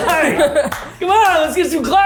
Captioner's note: clapping; group laughs